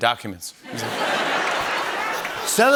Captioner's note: laughter